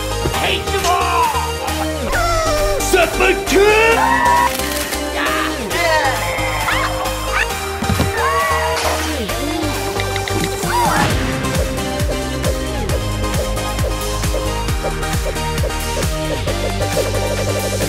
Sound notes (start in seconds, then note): 0.8 shrieks; 1.3 dog whimpers; 2.7 battle cry; 3.8 screaming; 4.4 camera shutter snaps; 5.5 cheering; 5.8 screaming; 8.1 cheering; 11.2 dance music